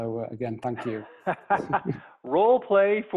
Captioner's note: laughter